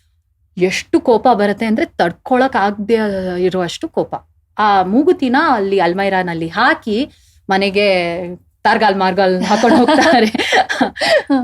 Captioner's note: laughing